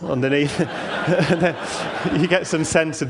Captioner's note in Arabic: ضحك